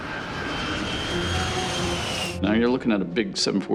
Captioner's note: plane whining